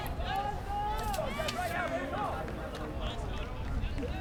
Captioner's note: players yelling